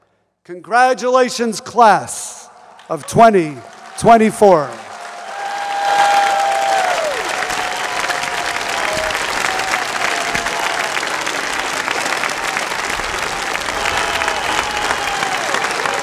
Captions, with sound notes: Congratulations, Class of 2024. (audience applauds and cheers)